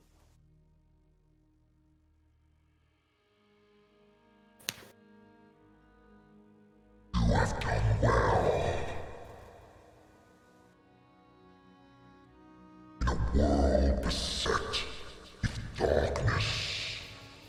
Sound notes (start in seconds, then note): 0.2 the silence of space; 7.5 heavy rumbling voice